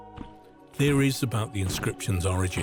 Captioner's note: feet stomping